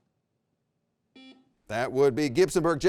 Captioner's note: buzzer rings